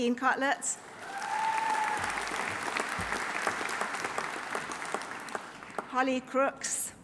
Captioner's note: audience applauding; audience cheering